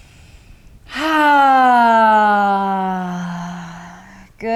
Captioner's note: sighing deeply